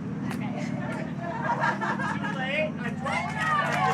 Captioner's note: laughter; cheering and applause